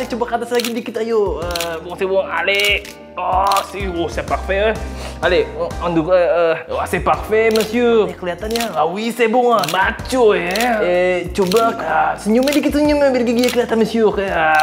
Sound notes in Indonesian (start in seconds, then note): 0.8 continue speaking Indonesian with France accent